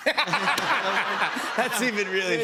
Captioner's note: laughter